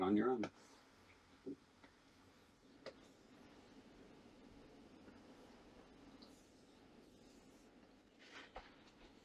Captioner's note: silence